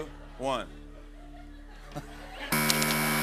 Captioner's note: laughs; buzzer